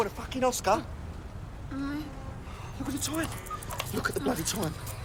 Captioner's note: moaning